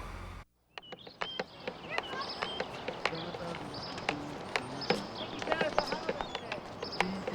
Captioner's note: humming; chopstick thudding